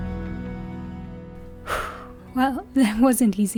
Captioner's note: sigh